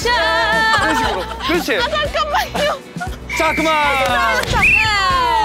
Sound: cracking up

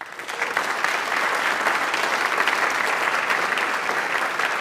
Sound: audience applauds

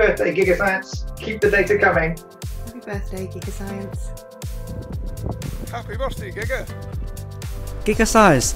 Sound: Cantonese

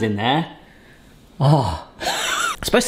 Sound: laughs

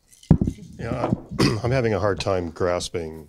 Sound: voiceover

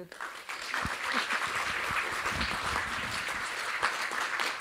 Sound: applause

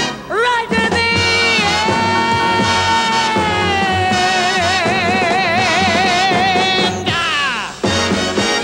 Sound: clock ticking

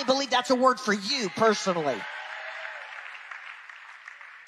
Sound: audience cheering; audience clapping

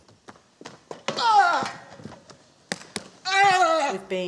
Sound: the monster cries out

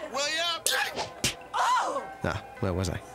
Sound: slapping, woman screams

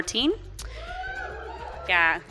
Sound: cheering from the audience

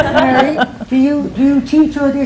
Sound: laughter

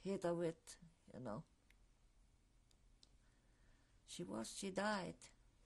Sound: pauses for 3 seconds

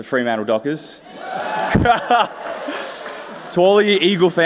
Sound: cheers

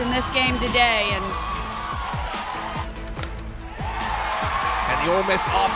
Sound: crowd Cheering

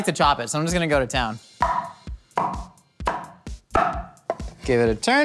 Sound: cleaver hitting chopping board

